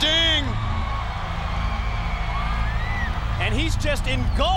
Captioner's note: applause